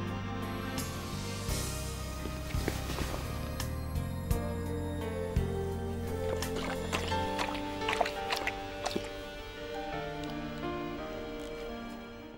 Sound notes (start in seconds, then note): 2.2 footsteps; 6.0 Bob laps water